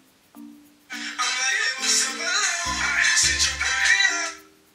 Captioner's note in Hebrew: צלצול טלפון